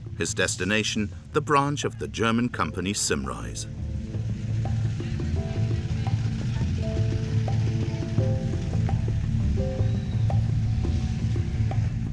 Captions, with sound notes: his destination, the branch of the German company Simrise. (gentle tribal music) (engine chugging)